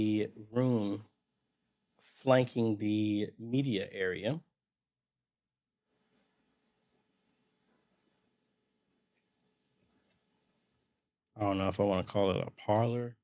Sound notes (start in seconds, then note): 4.6 silence